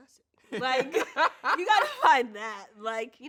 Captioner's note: laughs